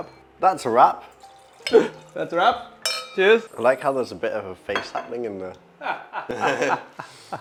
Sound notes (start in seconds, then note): 5.8 laughter